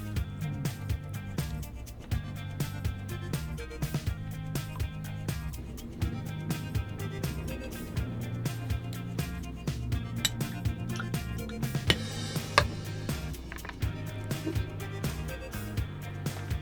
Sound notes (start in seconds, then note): 0.2 upbeat music; 10.4 tinkling spoon